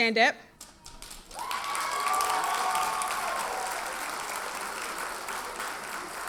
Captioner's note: audience cheers and applauds